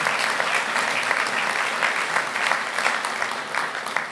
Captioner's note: applause